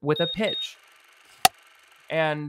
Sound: clapperboard cuts

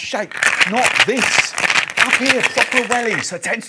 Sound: ice shaking

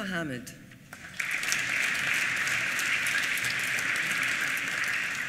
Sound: applause

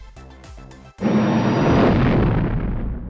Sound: spaceship engine sounds

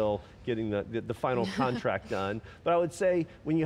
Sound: laughing

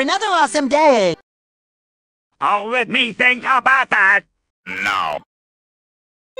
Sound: sarcastically

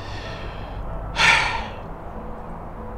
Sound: sighs

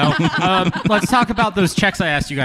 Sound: laughter

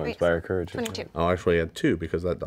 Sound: murmurs

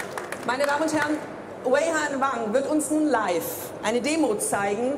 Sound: speaking in foreign language

